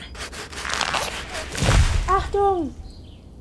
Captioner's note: tree falls